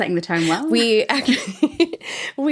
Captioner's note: laughs